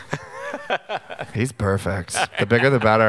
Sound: laughing

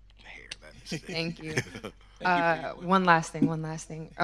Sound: host chuckling

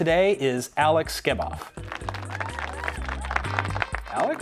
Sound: applause

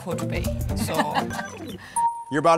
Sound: laughing

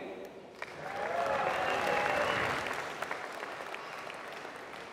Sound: applause

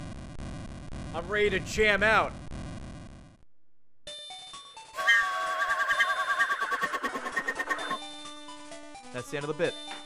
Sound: blowing whistle

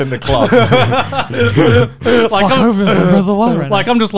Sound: laughing

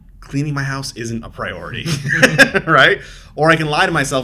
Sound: laughs

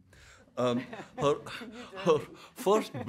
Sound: audience laughing

